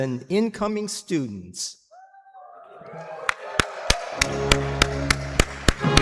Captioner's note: applause